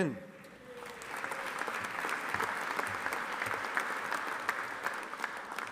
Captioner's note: audience applauding